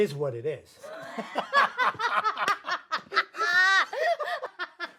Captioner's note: both laughing